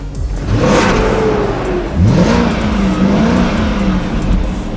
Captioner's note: car engine roaring